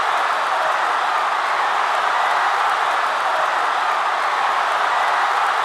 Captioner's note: cheering